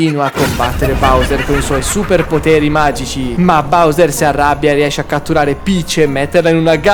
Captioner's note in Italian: risate